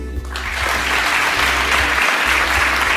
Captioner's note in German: Applaus